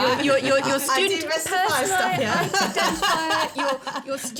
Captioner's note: laughter